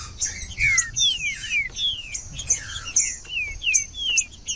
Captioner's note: trinca ferro cantando